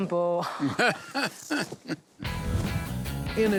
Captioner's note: laughing